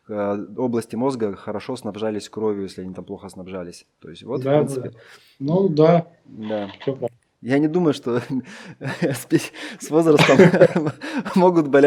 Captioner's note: laughter